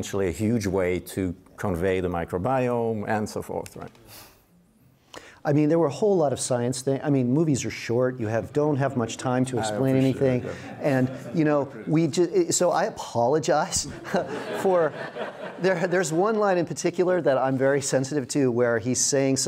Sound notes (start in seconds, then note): 13.8 audience laughs